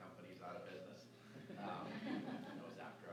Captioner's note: laughter